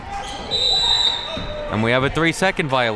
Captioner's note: whistle blows